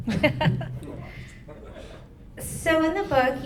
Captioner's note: laughter